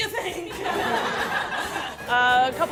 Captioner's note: laughter